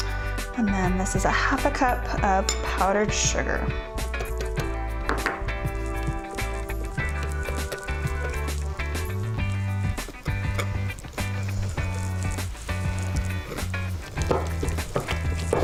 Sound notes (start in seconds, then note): 4.2 upbeat music; 7.1 whisking